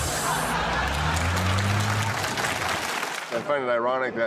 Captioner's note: audience laughing